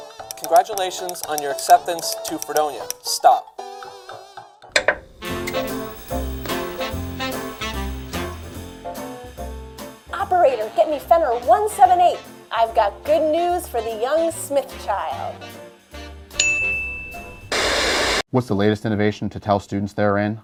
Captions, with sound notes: "Congratulations on your acceptance to Fredonia" "Stop" (TV click) (Trumpet music) "Operator, get me Fenner-178" "I've got good news for the young Smith child!" (Ding) (TV static) What's the latest innovation to tell students they're in?